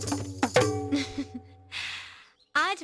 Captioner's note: chuckling